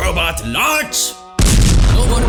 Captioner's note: boom